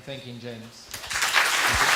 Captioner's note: applause